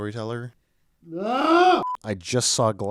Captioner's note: screams